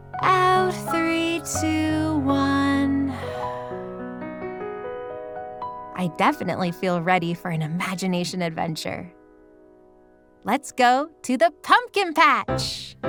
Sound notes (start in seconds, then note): 3.1 exhales